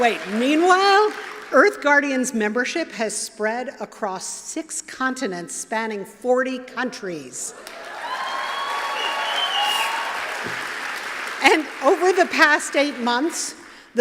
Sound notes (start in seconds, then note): 7.6 applause